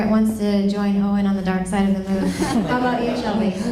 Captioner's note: laughter